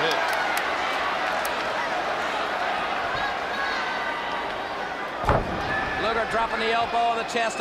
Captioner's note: crowd chatter